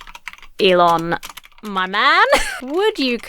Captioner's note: laughs